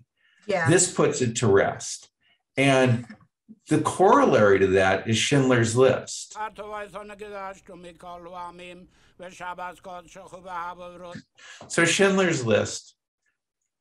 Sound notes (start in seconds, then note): 6.3 A man praying in Hebrew